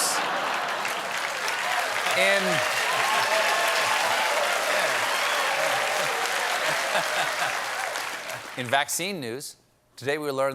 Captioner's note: applause